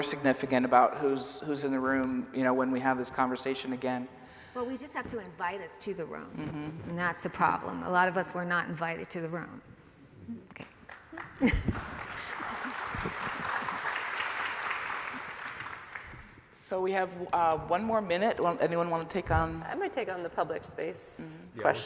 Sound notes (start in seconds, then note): 13.7 applause